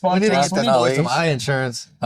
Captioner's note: laughing